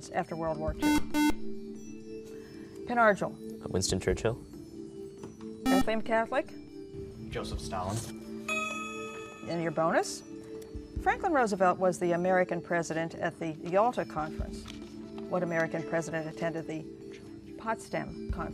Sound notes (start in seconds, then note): 0.8 buzzer; 8.4 ding